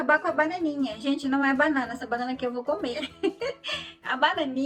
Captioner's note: laughs